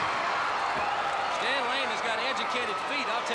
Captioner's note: crowd cheering